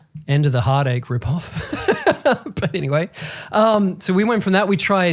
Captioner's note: laughs